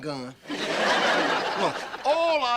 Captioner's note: audience laughter